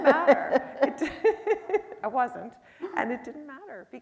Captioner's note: laughing